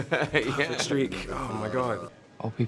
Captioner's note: laughs